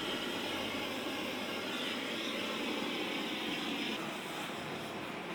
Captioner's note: blowtorch whooshing